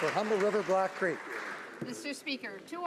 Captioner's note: some Applause